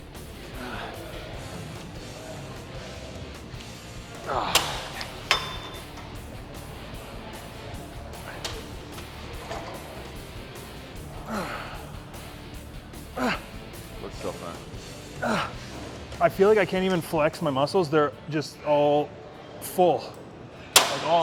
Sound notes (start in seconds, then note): 0.2 upbeat music continues; 4.2 metal clunks; 6.2 upbeat music continues; 14.7 upbeat music continues